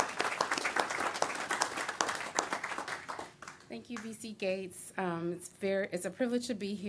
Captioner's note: clapping